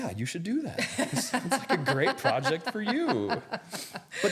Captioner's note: laughing